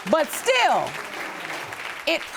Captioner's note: audience applauding